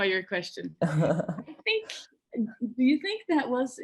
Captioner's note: laughs